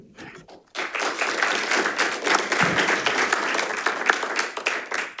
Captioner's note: audience applauding